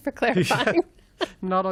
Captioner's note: laughter